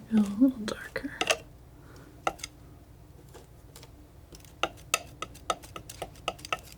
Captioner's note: tapping